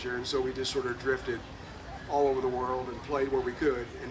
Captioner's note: none